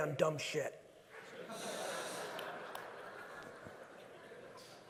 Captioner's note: audience laughing